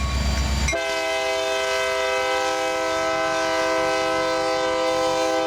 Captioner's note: train horn blaring